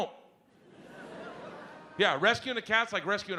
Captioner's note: audience laughs